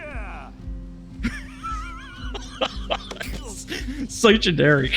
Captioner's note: laughs